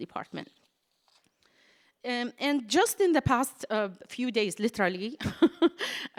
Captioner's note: laughs